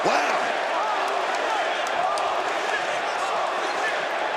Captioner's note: crowd chants